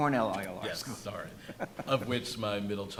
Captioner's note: chuckles